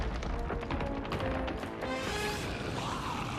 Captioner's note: rumbling